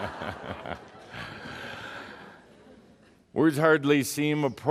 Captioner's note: laughter